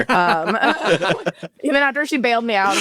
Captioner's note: all laugh